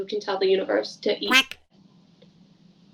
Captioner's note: quack sound